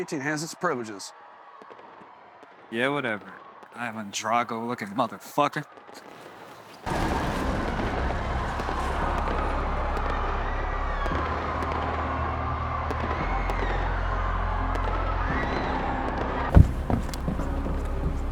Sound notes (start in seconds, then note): 6.8 dramatic music; 10.9 distant people screaming; 14.6 dramatic music